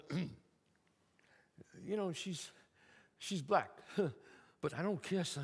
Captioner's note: throat clearing; scoffs